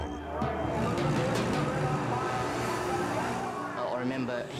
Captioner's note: engines rumbling; announcer chattering